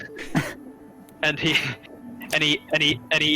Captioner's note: laughs